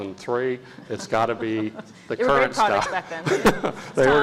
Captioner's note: laugh